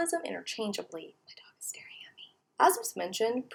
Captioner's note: whispers